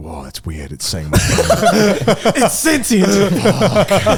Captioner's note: all laughing